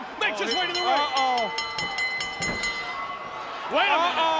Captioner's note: bell chiming